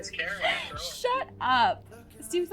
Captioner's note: laughs